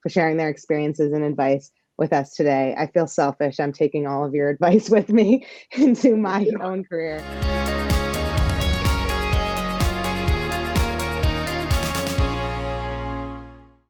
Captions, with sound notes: for sharing their experiences and advice with us today. I feel selfish I'm taking all of your advice with me into my own career. (laughs) (upbeat music)